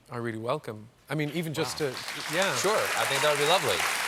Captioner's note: applause